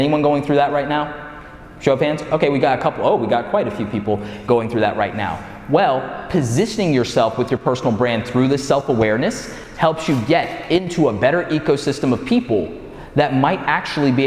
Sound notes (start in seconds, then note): none